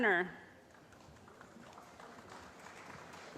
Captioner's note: applause